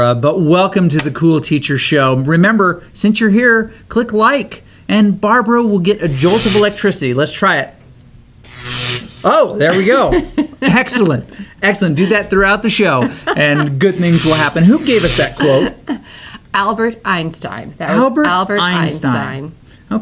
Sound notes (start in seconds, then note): 6.0 electricity crackling; 8.4 electricity crackling; 9.7 laughs; 13.8 electricity crackling